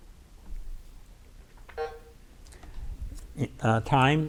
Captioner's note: bell buzzes